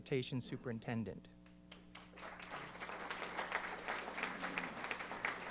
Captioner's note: applause